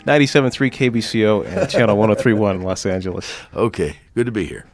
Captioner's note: laughing